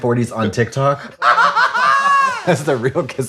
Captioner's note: Trixie laughs